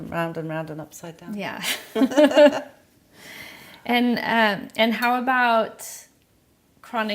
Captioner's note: laughs